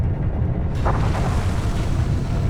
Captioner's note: loud crashing sounds